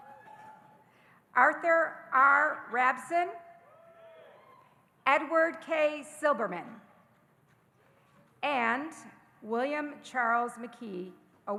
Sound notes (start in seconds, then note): 0.0 audience cheering; 3.8 audience cheering